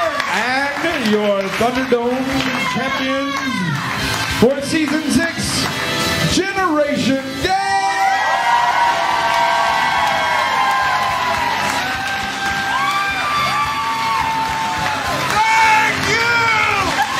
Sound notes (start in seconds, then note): 0.0 cheers & applause; 8.9 cheers & applause; 16.9 cheers & applause